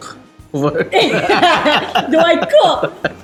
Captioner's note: laughs